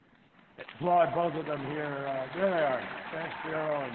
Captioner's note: applause